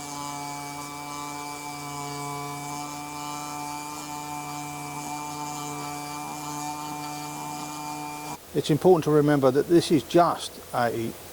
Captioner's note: grinding sound